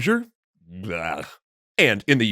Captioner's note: sound indicating disgust